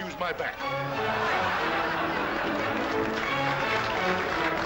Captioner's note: laughter & applause; can-can music plays